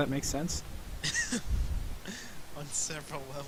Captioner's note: chuckling